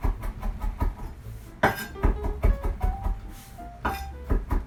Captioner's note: knife chopping